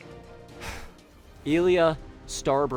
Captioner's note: sigh